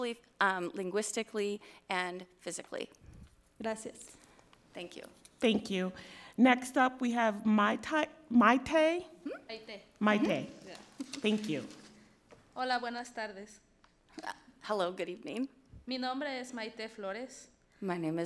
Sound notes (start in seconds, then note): 3.8 speaks foreign language; 12.7 speaks foreign language; 16.1 speaks foreign language